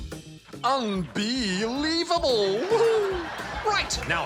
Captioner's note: chuckles